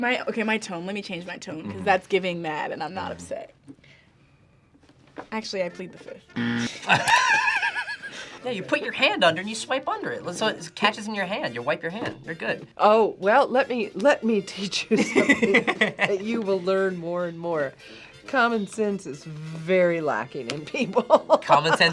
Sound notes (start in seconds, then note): 6.4 buzzer rings; 6.4 both laugh; 20.8 laughs